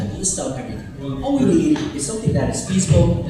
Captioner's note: murmurs